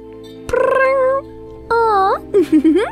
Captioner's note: meowing; giggles